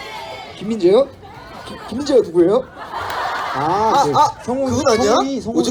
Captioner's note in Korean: 웃음